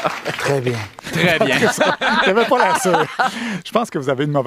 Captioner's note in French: rires